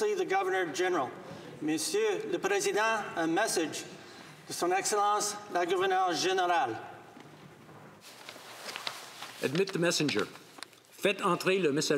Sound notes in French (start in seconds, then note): 1.1 voix de l'interprète